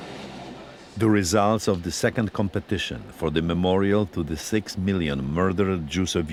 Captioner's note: voice-over